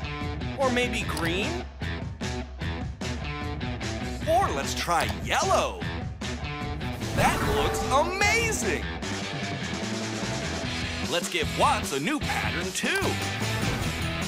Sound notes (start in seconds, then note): none